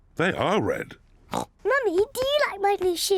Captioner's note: oinks